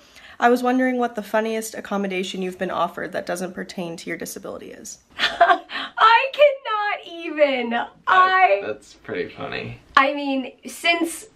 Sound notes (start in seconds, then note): 5.2 chuckling